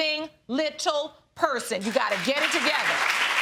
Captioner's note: audience applauding